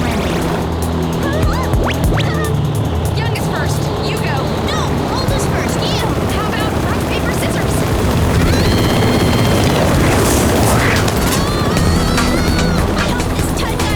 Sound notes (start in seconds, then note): 9.9 propeller sounds; 10.5 screaming